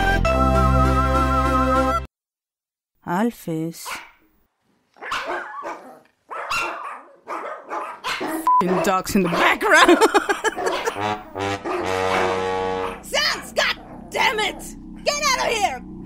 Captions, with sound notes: Alphys... [dogs barking] F**ing dogs in the background! [sad trombone] Sans, goddammit! Get out of here!